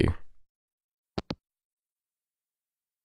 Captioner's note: hangup